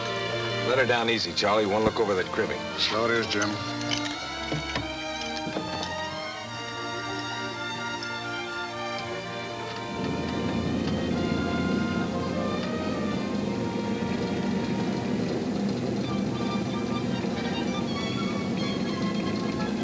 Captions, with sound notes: - Let her down easy, Charlie. I wanna look over that cribbing. - So it is, Jim. (rattling) (pleasant orchestra music)